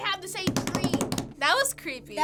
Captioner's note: pounding table